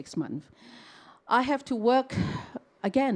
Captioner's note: sighs